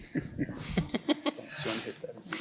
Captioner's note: woman laughs